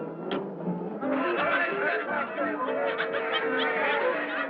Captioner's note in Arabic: حديث الحشد